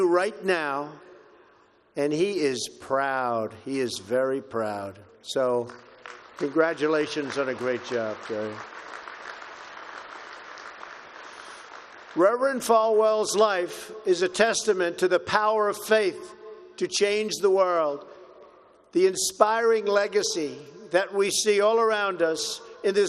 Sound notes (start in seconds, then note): 9.1 applause